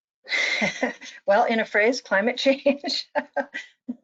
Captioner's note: laughs